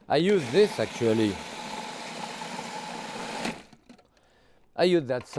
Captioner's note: processor whirring